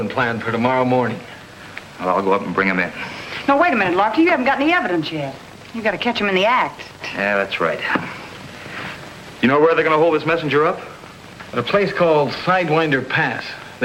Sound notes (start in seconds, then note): none